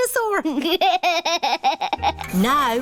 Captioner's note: chuckles